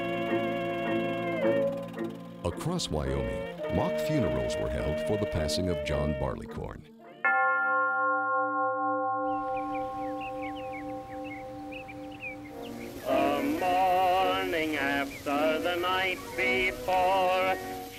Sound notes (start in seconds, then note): 7.2 chiming; 9.2 birds chirping